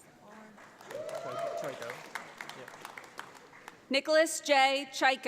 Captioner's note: audience applauds